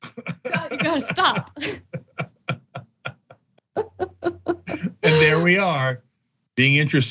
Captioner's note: laugh